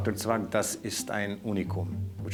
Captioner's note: speaking foreign language